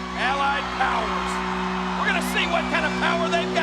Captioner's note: audience cheers; lively music